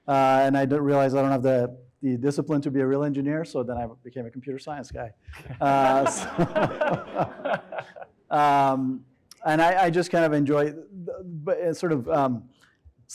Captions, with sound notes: and I realized I don't have the discipline to be a real engineer, so then I became a computer science guy. (audience laughing) And I just kind of enjoy, sort of,